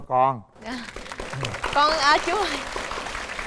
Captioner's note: applause